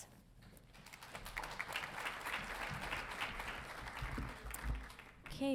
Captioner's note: audience applauding